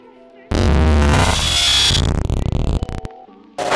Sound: glitchy noises

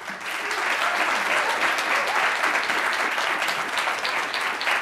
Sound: audience applauding

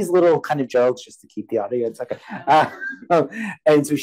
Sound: chuckles

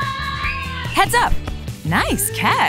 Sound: kids screaming

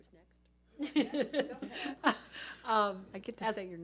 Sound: laughing

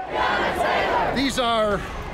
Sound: crowd chanting

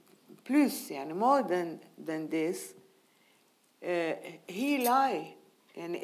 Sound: speaking in foreign language

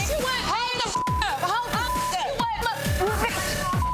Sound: shouting; beep; shouting

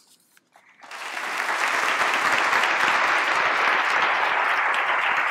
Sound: applause

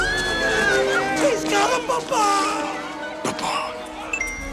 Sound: screaming continues; crowd screaming

